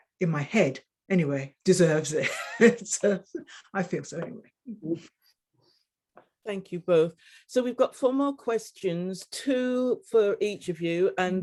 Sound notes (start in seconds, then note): 2.7 woman chuckling